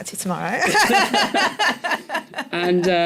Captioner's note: laughter